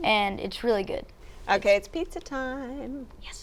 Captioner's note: singsong voice